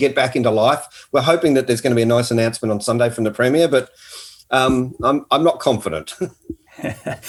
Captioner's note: laughing